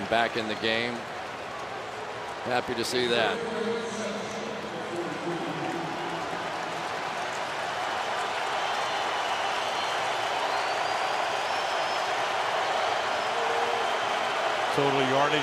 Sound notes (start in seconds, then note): 4.0 pa announcement; 12.0 cheering